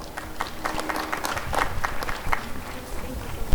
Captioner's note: applause and cheering